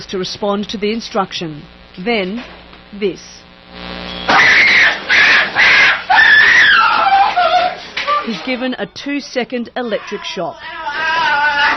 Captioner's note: screaming